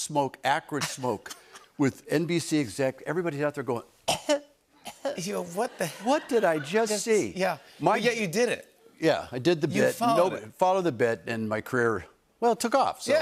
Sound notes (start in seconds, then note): 4.0 coughing